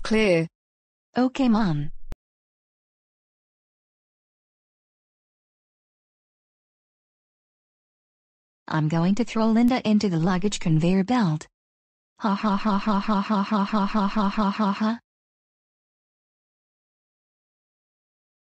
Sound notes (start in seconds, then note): 12.2 laughs